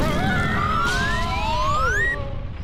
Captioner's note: screams